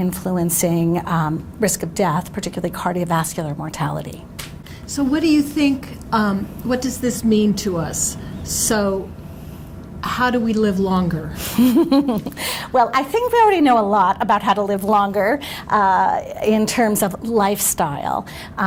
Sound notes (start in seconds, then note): 11.3 laughs